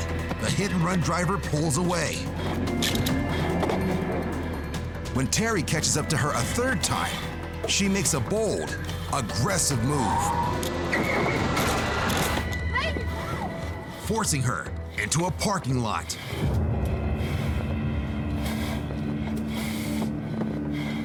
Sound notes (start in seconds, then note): 2.2 car engine revving; 9.4 tires screeching; 10.3 thudding; 18.1 breathing heavily